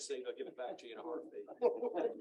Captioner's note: laughter